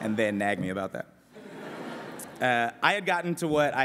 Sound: laughter

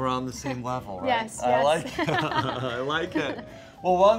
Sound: both laugh

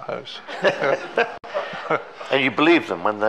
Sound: all laughing

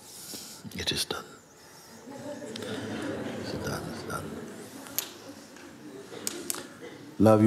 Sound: laughter

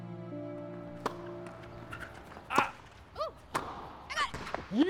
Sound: tennis being played

